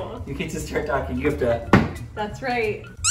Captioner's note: smack table